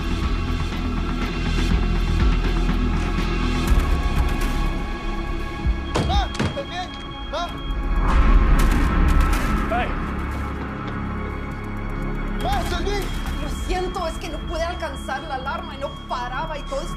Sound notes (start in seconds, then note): 5.4 speaking Spanish; 11.8 speaking Spanish